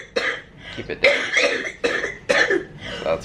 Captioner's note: coughing